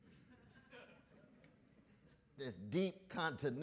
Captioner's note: audience members laugh